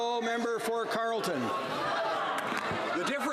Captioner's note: some Applause